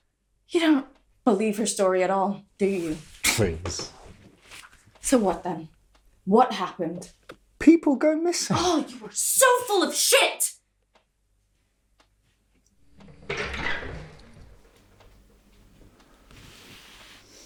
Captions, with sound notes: - You don't believe her story at all, do you? - Please. - So what then? What happened? - People go missing. - Oh, you are so full of shit! (door opening)